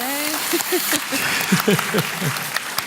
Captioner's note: applause